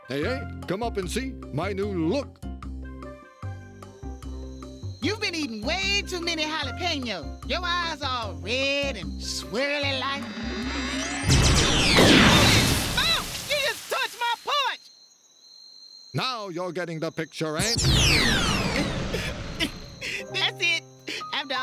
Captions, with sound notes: HEY, ANT, COME UP AND SEE MY NEW LOOK. YOU'VE BEEN EATING WAY TOO MANY JALAPENO. YOUR EYES ARE ALL RED AND SWIRLY-LIKE. HOLY SMOKES, YOU JUST TORCHED MY PORCH! NOW YOU'RE GETTING THE PICTURE, ANT. (crying) THAT'S IT.